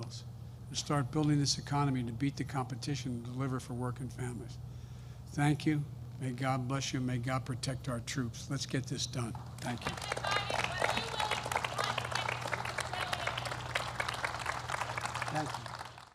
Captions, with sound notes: and start building this economy to beat the competition and deliver for working families. Thank you. May God bless you. And may God protect our troops. Let's get this done. Thank you. (Applause.)